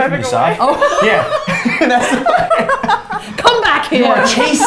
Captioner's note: both laughs